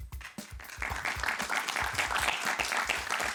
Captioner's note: applause